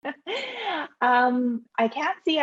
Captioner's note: laughs